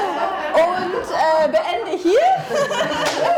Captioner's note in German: Gelächter